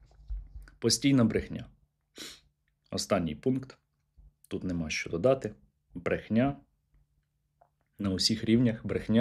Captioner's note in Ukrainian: сопіння